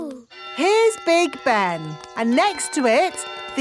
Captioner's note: clock chimes